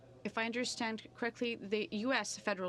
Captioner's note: speaking French